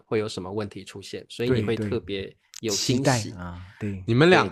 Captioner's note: surprised